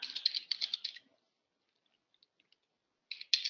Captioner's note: typing